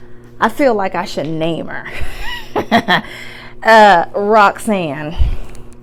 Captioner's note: laughs